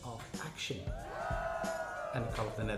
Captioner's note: people cheering